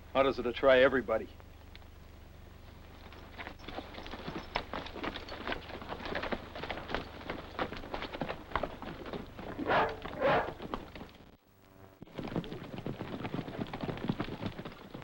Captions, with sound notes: - Orders are to try everybody. (dog barks) (hooves clop)